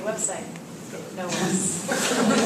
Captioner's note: laugh